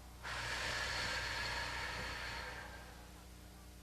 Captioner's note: breathing